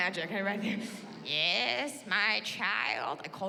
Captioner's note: in elderly woman voice